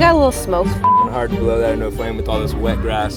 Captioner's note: beeping